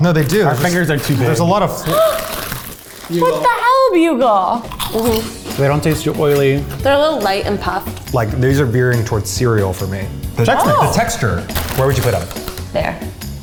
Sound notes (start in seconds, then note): 1.8 gasps; 4.7 crunching